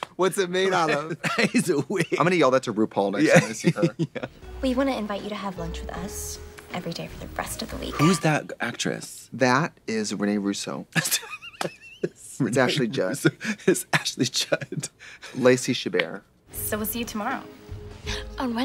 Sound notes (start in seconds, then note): 11.0 Katya laughs